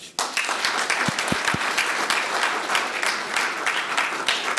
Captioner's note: audience applauding